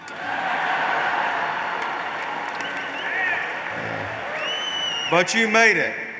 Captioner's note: laughter